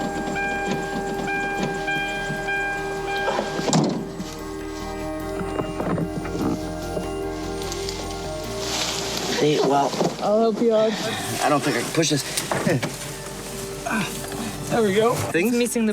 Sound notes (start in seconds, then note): 3.9 dramatic Music; 5.4 car Door Opens